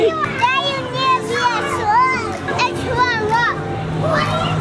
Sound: kids talking

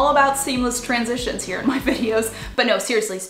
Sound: chuckles

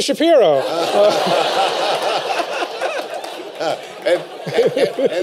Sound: laughter

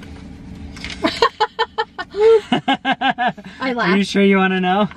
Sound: laughing

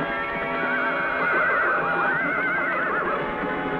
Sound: horses whinny

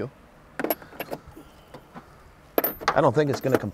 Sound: metal clanging

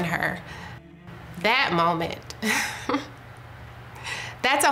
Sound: chuckling

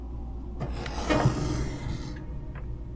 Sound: growling

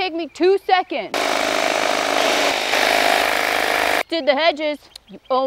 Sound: hedge trimmer buzzes

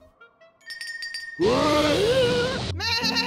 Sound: bell rings; bleating loudly

